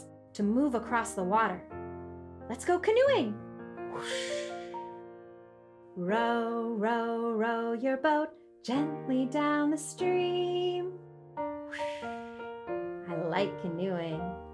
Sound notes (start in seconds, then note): 3.9 whooshing